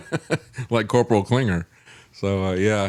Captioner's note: laughs